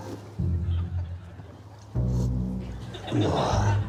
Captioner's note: slurps